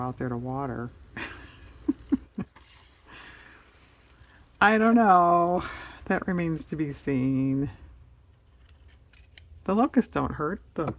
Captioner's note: laughs